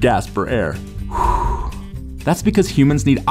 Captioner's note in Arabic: زفير